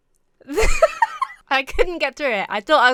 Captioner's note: giggles